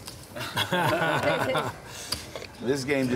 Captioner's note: laughing